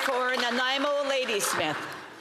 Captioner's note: some Applause